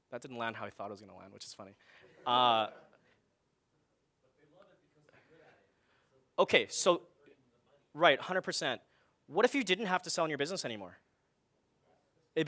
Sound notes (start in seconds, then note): 2.5 audience laughing